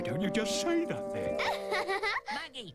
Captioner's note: giggling